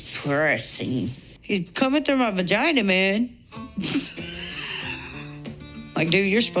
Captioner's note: laughs